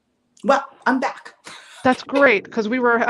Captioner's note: laughs